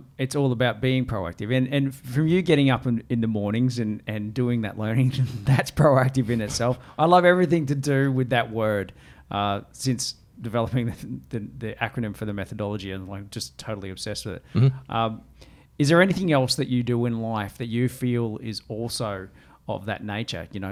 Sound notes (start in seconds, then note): 5.1 laughs